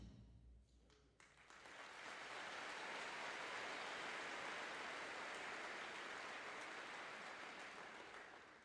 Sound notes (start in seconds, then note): 1.2 audience cheering and applauding